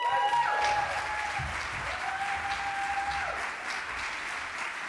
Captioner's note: applause